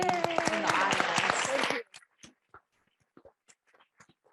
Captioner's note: audience applauding